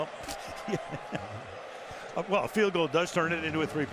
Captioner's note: chuckles